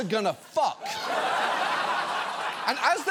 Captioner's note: studio audience laughing